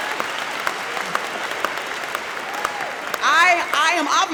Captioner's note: audience clapping